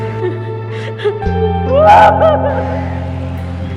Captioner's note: screaming in pain